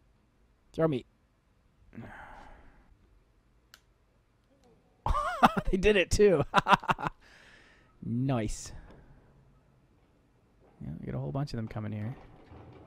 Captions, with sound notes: Throw me! (laughing) They did it, too! Noice! Yeah, we got a whole bunch of them coming, here